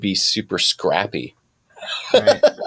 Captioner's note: laughing